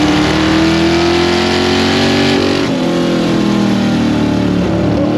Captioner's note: engine loudly rumbling